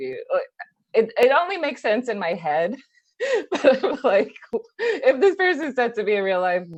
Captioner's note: laughs